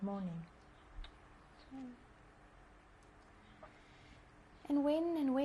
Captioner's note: pauses for 3 seconds